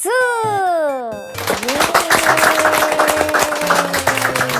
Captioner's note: applause